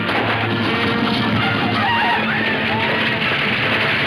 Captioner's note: gunshot banging